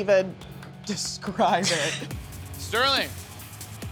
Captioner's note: both laughing